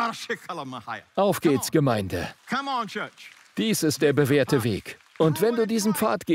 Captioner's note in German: JP spricht in Zungen